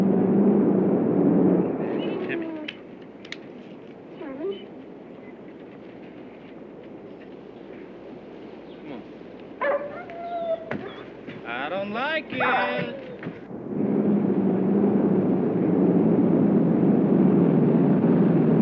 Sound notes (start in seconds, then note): 4.1 dog whimpering; 9.6 dog barking